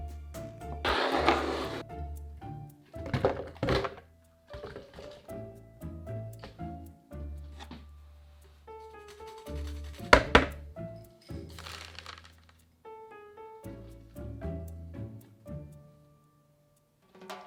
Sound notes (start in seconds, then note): 3.0 onions dropping; 8.9 grating